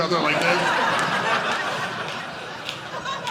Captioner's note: audience laughing